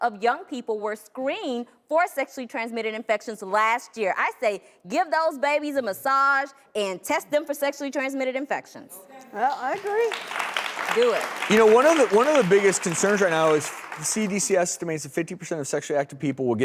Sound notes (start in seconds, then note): 9.7 applause